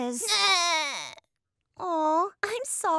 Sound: cries

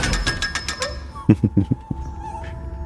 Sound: muffled laughter

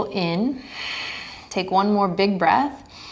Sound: exhaling strongly

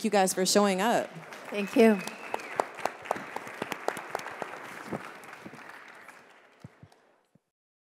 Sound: applause

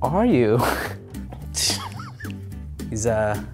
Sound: laughs

